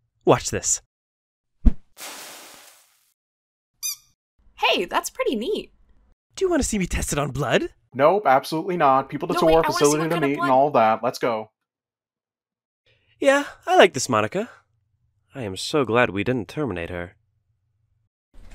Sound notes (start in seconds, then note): 2.0 water Evaporates; 3.8 Duck Squeaks